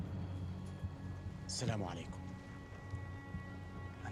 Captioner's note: speaks in arabic